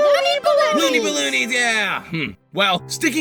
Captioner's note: bot & balloon in unison; bot & nickel in unison